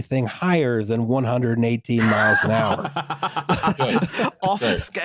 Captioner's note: laughter